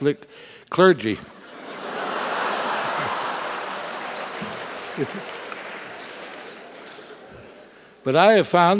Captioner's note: laugh